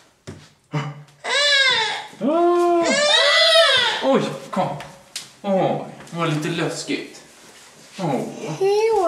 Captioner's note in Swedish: gnäller till och sedan skriker